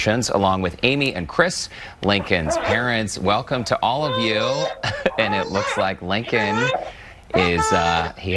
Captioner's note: baby crying in the background